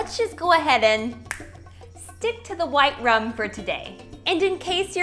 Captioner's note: fingers snap